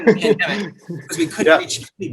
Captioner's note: laughs